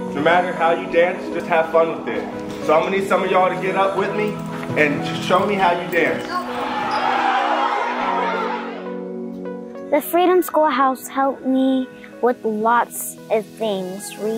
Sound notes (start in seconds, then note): 6.3 children exclaiming joyfully; 8.3 gentle music playing